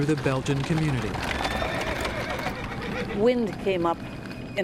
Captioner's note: horse whinnying frantically